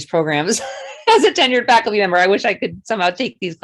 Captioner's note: chuckling